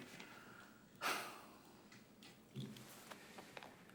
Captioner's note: sighs